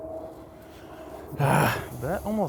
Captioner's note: groans